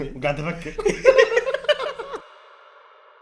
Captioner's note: laughing